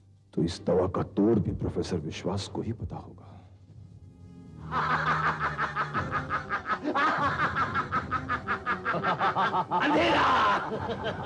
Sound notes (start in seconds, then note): 4.6 laughs